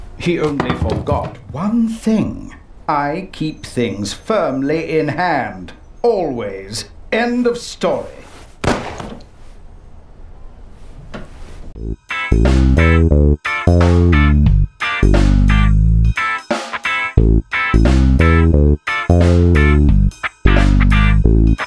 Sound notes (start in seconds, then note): 8.6 gunshot